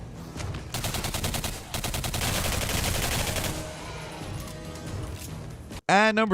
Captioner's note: tense dramatic music; guns blasting